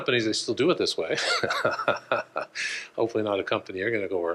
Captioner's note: laughs